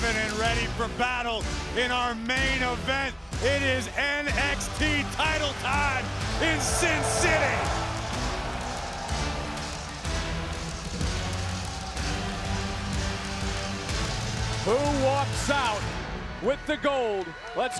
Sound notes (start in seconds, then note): 8.1 audience cheering; 8.1 dramatic music